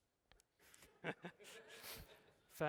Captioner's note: laughter